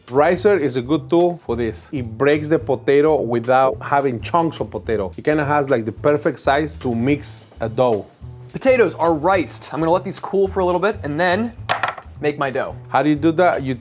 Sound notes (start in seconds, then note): 11.7 tray clacks